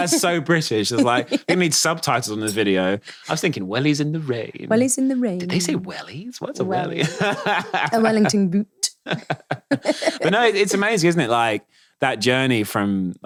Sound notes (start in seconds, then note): 9.0 both laughing; 9.0 laughing